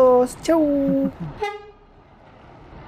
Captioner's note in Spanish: sonido de bocina de bus